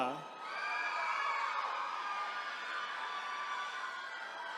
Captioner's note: attendees cheering